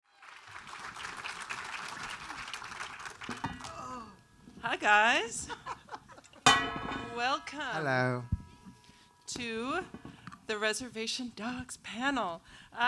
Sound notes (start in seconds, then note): 0.0 audience applauding; 3.2 metal clanking; 5.4 laughs; 6.4 metal clanking